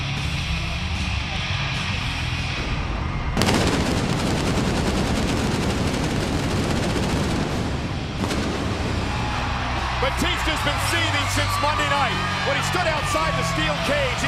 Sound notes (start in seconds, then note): 3.3 fireworks banging